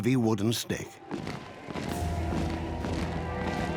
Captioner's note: marching, soldiers shout